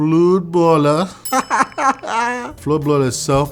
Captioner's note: laughing